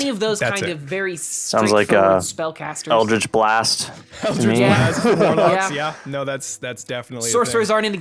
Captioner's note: laughs